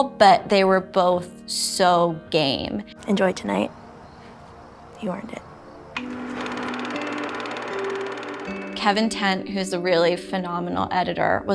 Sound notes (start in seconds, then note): 5.8 movie projector whirring